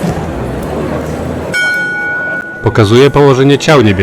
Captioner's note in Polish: bije dzwon